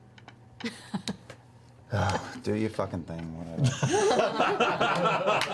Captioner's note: sighs; all laugh